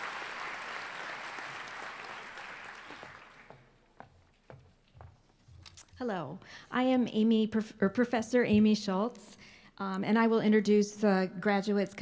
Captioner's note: applause